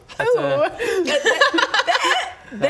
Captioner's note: unhelpful laughter